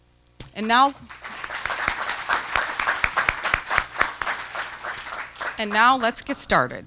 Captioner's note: applause